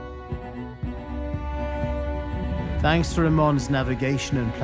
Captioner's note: in English